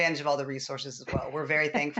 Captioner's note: laughter